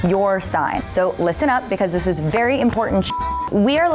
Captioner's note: beep